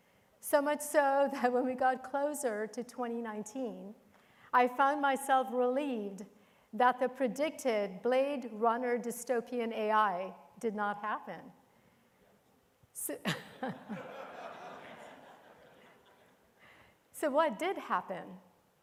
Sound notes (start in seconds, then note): 11.9 everyone laughing